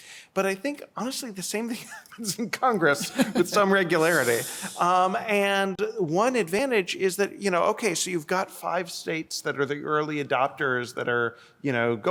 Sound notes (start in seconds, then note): 2.8 laughter